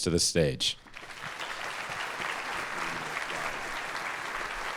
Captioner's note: audience applauding